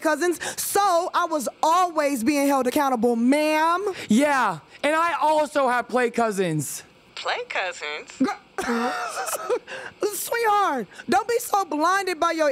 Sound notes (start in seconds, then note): 8.2 laughs